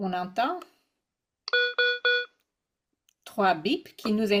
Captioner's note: l'appareil émet trois bips